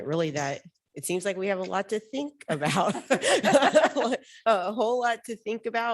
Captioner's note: laughs